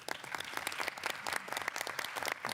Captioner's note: applause